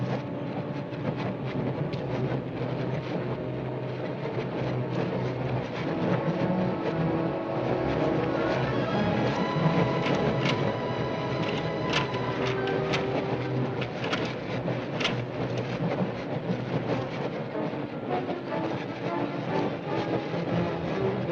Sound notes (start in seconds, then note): 11.4 lock rattling; 17.8 tense music